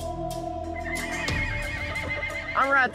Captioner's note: horse whinnying